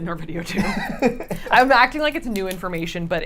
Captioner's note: laughs